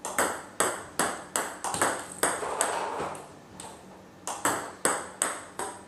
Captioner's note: ball ping pong hitting continues